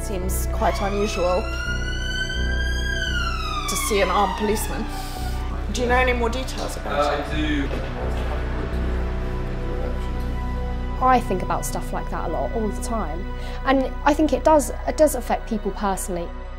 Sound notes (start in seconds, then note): 2.1 sirens wailing